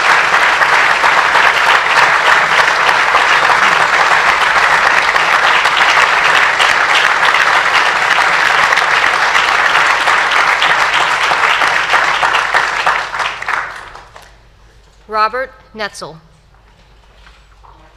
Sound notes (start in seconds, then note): 4.9 applause